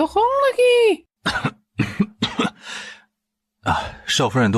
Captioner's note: cough